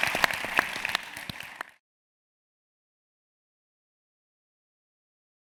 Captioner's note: applause